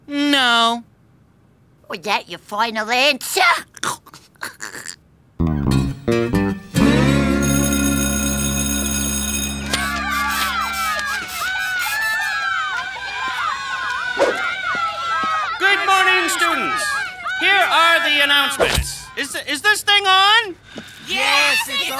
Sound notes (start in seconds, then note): 8.3 school bell ringing; 11.2 yelling